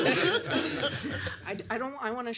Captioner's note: laughter